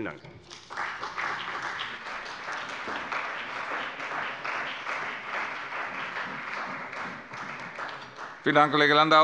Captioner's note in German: Beifall bei der CDU und dem BÜNDNIS 90/DIE GRÜNEN